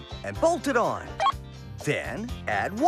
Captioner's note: beep